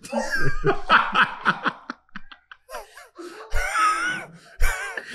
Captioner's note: Kwame laughing